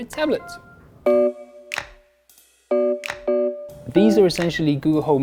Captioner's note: chiming